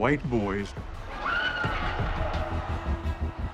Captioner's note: girl screams